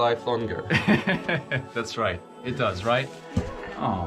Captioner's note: laughs